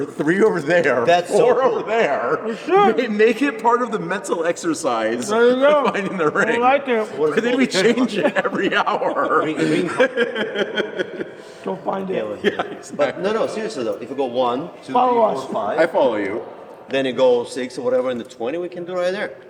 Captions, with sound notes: three over there, four over there. We make it part of the mental exercise. I know. I like it. We change it every hour. [LAUGH] Go find it. No, no, seriously though, if you go one, two, three, four, five. I follow you. Then you go six or whatever in the 20 we can do right there.